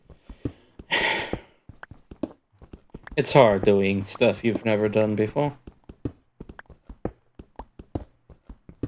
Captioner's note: sigh